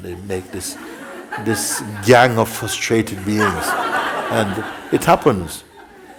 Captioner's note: laughter